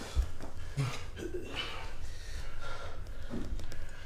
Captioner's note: Phillip panting